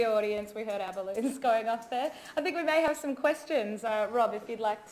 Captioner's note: laughs